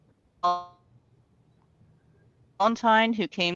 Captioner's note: speaks faintly